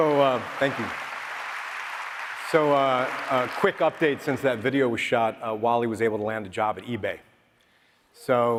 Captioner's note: applause